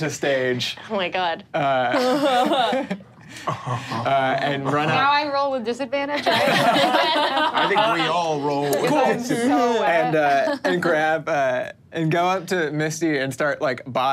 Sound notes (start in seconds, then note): 6.2 laughs